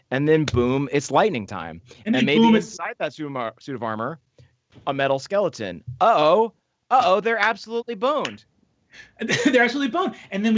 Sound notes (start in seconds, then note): 6.1 exclaims